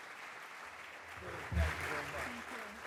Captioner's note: applause